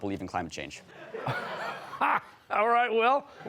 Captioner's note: laughter; laughing